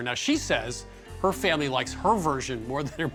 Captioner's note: chuckles